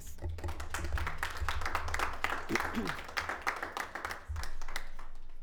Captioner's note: attendees applauding